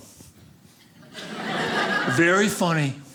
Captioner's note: audience laughing